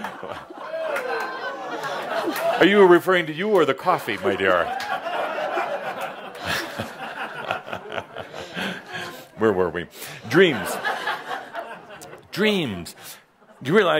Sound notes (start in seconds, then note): 0.2 laughter; 6.3 more laughter, Adamus chuckling